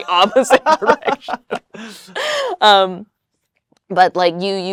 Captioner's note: both laugh